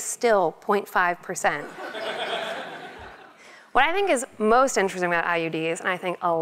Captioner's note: laugh